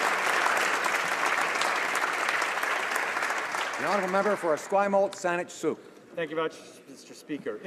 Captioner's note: applause